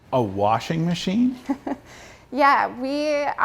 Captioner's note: laughs